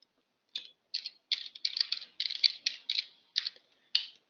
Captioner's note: typing